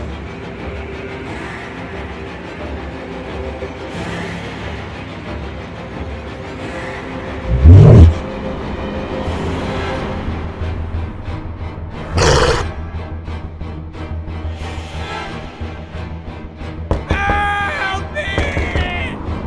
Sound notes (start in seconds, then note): 7.4 snorting Sound; 12.2 growling; 17.1 pounding on the door